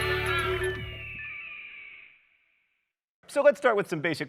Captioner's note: bird screeching